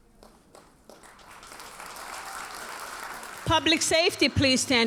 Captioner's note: audience cheers and applauds